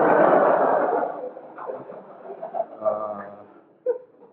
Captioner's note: crowd laughing